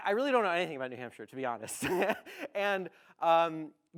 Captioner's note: laughs